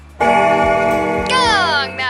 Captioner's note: bell rings